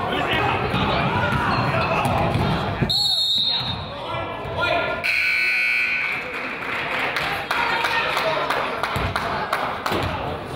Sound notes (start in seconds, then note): 3.2 whistle blows; 5.0 buzzer honks; 5.9 crowd applauds